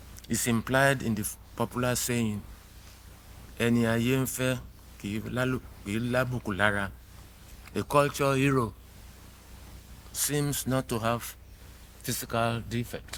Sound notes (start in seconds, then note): 3.8 speaking in foreign language